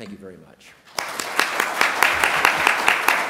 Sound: applause

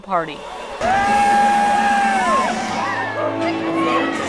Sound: cheers and applause

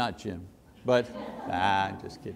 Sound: congregation laughs

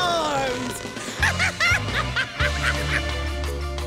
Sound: laughing

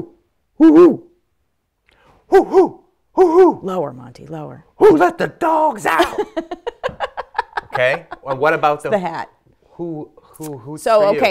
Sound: owl sound

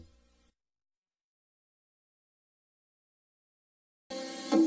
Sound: silence

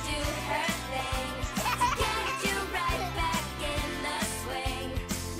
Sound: giggling

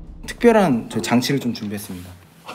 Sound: mic testing

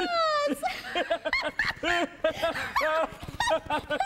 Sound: laughing

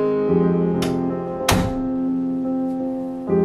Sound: door clicks shut

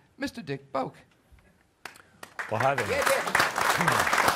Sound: applause

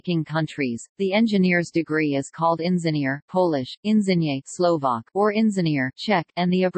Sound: Polish

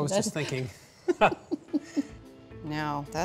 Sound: laughter

